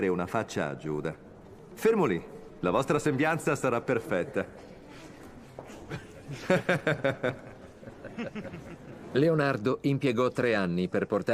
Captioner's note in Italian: Risate